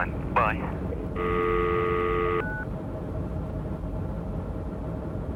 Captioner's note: dial tone